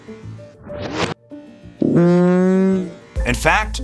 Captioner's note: squeaking